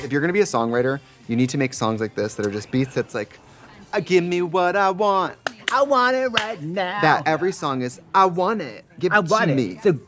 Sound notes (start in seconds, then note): 5.4 Trixie claps